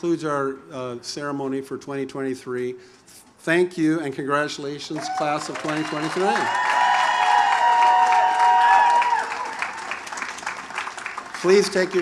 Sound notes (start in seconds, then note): 4.9 audience applauds; 4.9 audience cheers